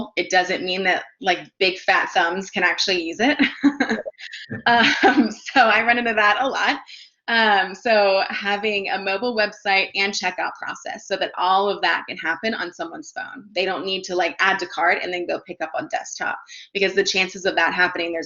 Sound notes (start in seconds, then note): 3.5 laughs